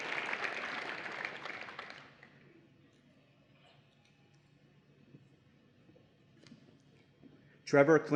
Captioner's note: applause and Cheering